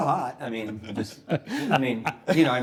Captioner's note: guests chuckling